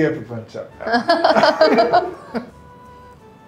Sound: laughing

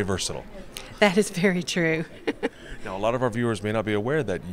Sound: laughs

